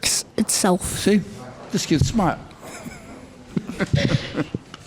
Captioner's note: laughs